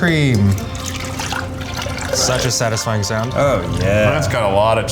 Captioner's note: liquid sloshing